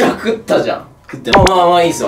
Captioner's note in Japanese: 小声